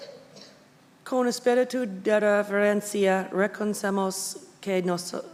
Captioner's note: speaking Spanish